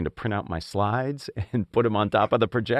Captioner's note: laugh